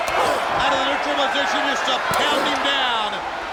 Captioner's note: crowd chanting drowns out commentators